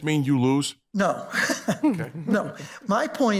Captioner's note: laughs